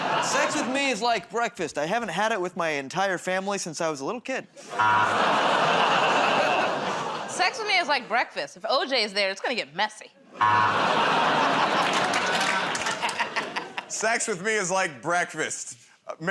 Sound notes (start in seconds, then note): 4.8 buzzer; 4.8 audience "Oh"s; 10.4 buzzer